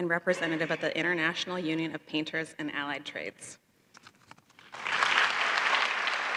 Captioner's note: applause